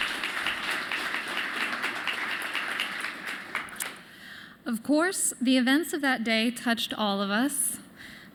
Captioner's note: applause